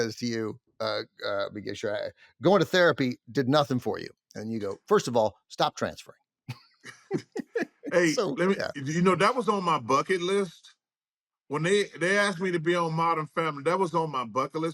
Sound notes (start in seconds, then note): 6.8 both laugh